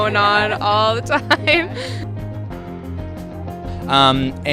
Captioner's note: laughing